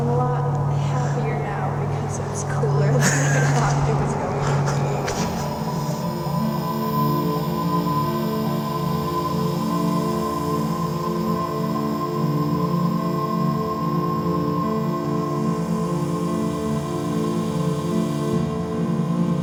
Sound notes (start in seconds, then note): 3.0 laughs breathily; 5.3 eerie, spacey music